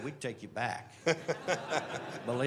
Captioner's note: laughter